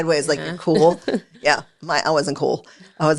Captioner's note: chuckles